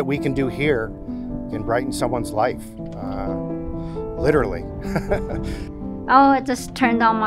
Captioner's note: laughs